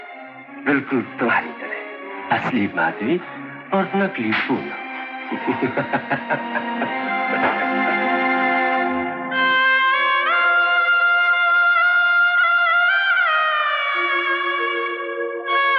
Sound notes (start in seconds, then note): 5.2 Laughing